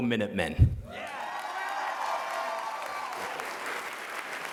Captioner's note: cheers and applause